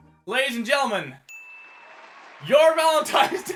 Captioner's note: ding